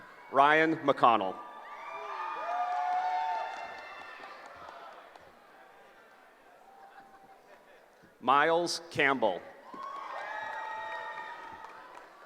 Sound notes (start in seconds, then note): 1.3 cheering; 9.6 cheering